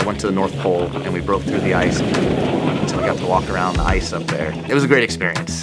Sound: sounds of ice breaking

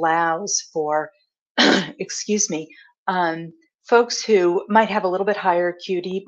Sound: clears throat

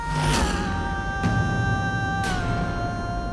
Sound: emotional vocalising

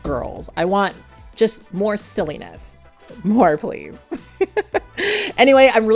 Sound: laughing

